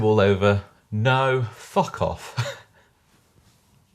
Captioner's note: laughing